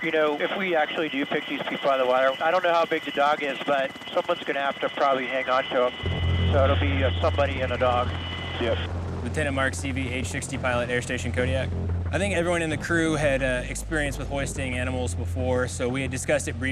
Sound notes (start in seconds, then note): 0.0 person Over Radio; 0.3 man Over Radio; 8.2 person Over Radio